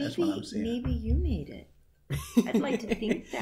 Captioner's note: chuckles